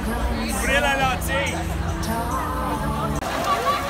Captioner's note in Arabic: الصراخ في اللغة الأجنبية